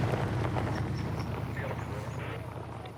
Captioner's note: police radio chatter